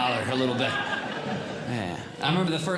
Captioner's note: audience Laughing